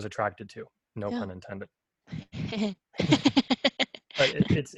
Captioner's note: heh heh